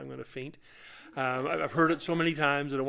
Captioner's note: laughter